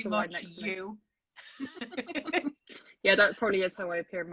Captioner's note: laughing